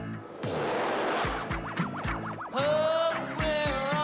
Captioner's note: Звуковой сигнал видеоигры